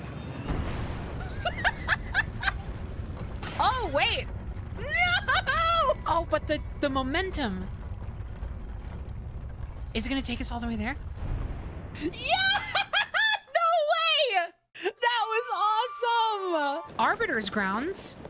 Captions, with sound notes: [Laughter] Oh, wait- NO! Oh, but the- The momentum Is it gonna take us all the way there? YEAH! NO WAY! That was awesome! Arbiter’s Grounds?